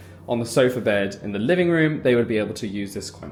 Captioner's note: none